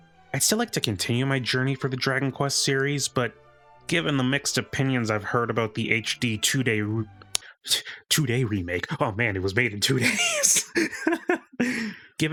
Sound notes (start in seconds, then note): 6.8 stutter